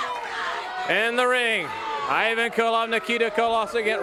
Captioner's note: crowd chatter